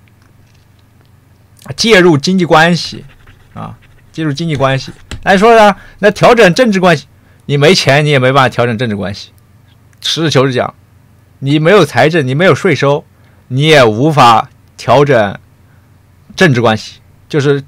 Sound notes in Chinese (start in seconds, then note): 11.5 大哭